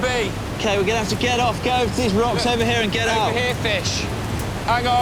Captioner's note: water roaring